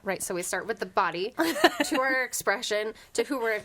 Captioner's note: laughs